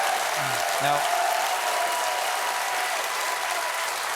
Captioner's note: applause